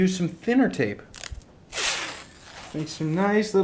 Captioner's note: screeches